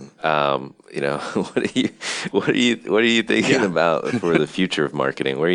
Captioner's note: laughs